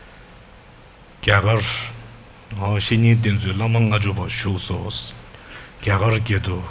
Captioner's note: speaks in foreign language